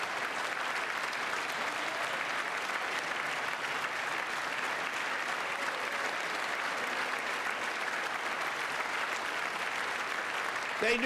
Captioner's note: applause